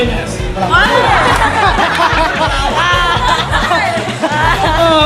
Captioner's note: laughs